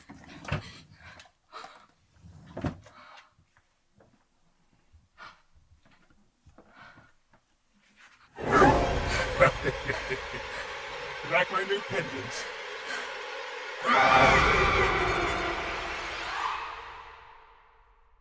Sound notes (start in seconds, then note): 8.4 sinister music; 8.5 leprechaun laughing; 13.4 Tilly screaming